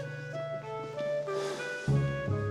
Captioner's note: sighs